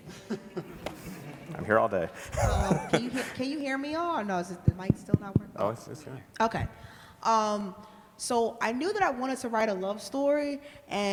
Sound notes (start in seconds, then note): 0.0 laughter; 4.6 mic tapping